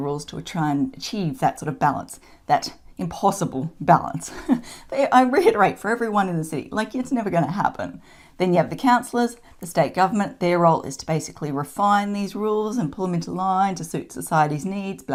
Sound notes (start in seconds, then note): 4.2 chuckles